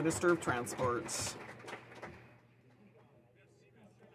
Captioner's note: some Applause